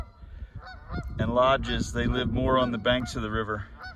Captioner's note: geese honking